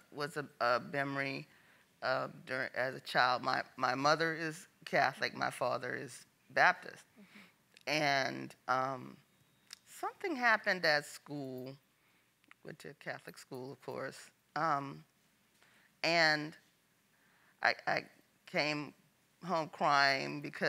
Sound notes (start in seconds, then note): none